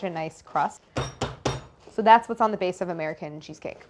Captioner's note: rolling pin thudding